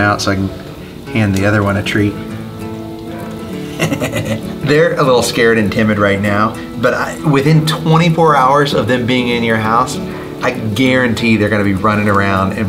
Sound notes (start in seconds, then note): 3.1 laughs